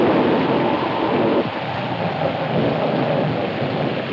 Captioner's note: wind howling